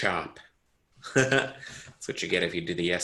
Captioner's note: giggles